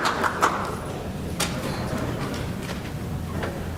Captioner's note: clapping stops